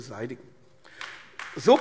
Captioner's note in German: Beifall AfD